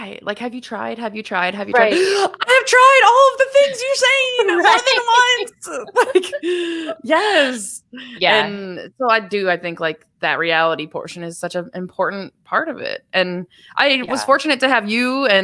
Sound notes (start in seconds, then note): 1.7 gasps; 5.6 laughs